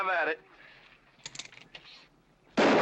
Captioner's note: pistol charging; gunshot